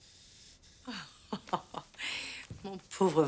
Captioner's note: laughing